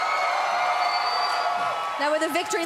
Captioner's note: cheering